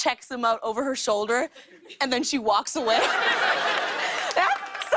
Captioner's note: laughter